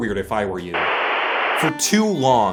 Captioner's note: static